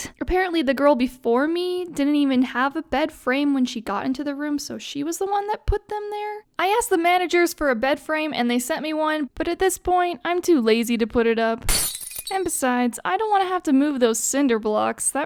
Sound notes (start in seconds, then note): 11.6 glass shattering